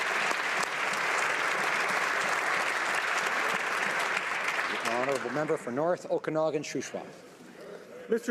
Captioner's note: applause